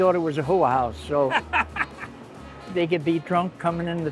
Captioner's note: laughing